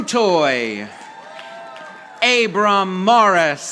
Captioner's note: audience applauding